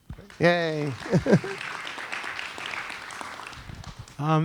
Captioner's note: applause